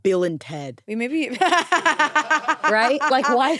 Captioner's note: laughs